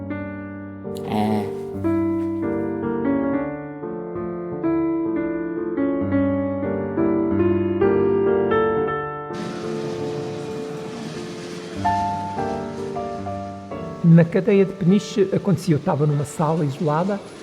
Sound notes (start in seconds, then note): 0.2 melancholic piano; 9.3 car and tram noise